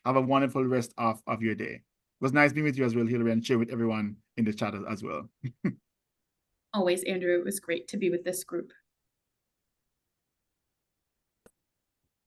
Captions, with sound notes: Have a wonderful rest of of your day. It was nice being with you as well, Hillary, and share with everyone in the chat as well. (chuckles) Always, Andrew. It was great to be with this group.